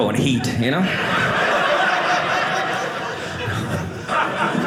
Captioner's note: audience laughing